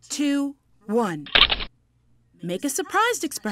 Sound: shutters click

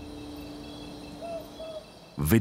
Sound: owl hoots

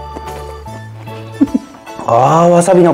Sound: laughs

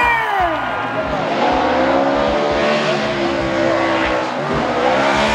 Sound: car engine revving

